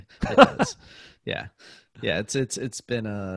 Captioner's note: laughs